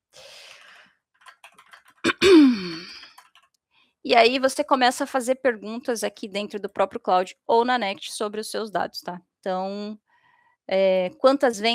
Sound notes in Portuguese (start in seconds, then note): 2.1 limpando a garganta; 2.3 suspirando